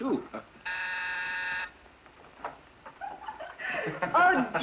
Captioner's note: doorbell buzzes